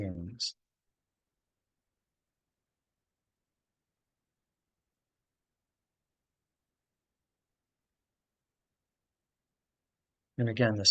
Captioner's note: pause